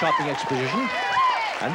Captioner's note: cheering and shouting